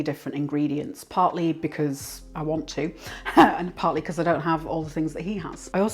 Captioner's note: laugh